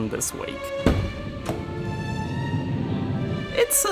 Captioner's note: van door sliding; dramatic orchestral music